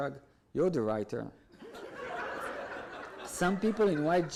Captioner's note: audience laughs